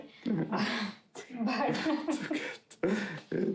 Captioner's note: chuckling